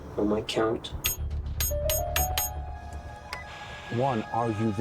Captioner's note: machine beeping